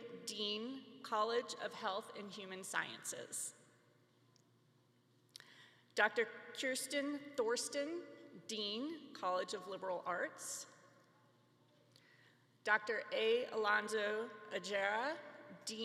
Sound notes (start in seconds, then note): none